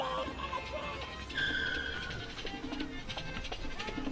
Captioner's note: tires squealing; upbeat Latin music